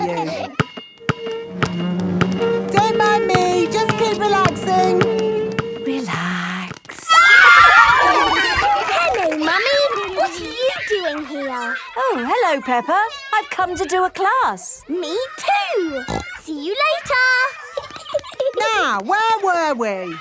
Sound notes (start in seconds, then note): 1.2 chair scraping; 6.9 kids screaming; 7.4 laughter; 15.8 snorting; 16.9 giggling